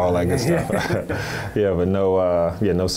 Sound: laughs

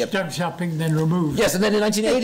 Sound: foreign language

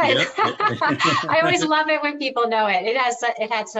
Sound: laughing

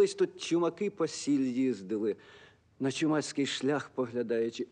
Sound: speaks in Ukrainian

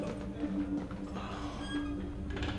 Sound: groans

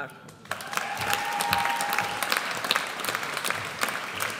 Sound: audience applauds

